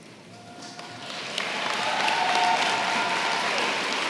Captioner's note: applause